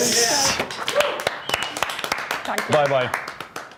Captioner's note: clapping and cheering